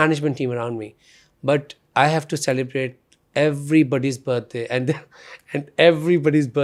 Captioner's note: laughs